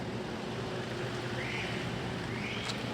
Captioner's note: someone whistles a cab